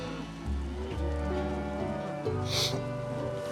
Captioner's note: sniffles